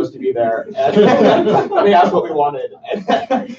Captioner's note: laughter